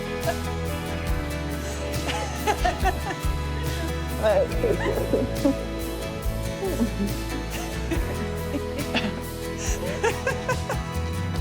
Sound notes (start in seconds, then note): 1.5 laughing